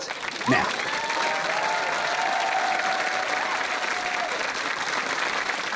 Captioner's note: applause